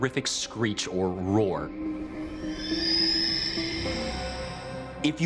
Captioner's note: creature screeches